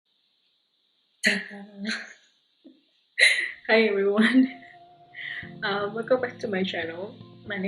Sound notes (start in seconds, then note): 3.2 laugh